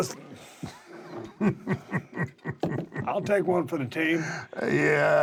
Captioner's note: laugh